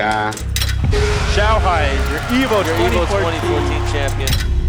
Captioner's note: commentator 1, in English